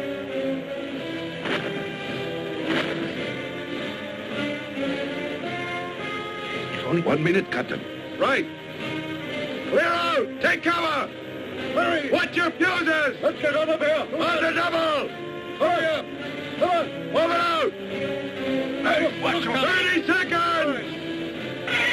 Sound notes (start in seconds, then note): 0.2 dramatic music; 16.5 men shouting